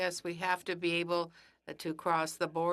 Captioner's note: speaking French